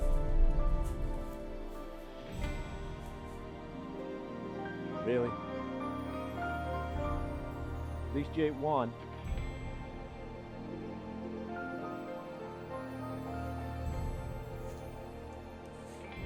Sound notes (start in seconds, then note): none